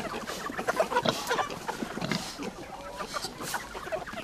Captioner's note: chickens clucking; pigs snorting